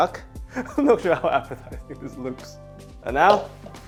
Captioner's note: laughing